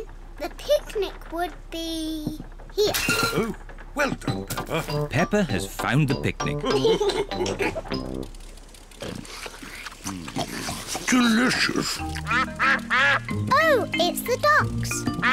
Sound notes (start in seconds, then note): 6.6 all laugh; 12.1 ducks quack